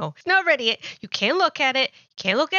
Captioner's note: gasp